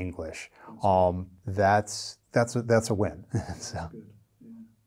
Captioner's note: chuckles